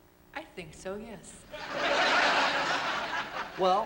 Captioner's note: laughter